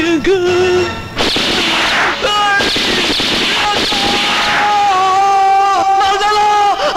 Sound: gunshots

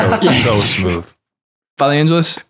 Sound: laughter

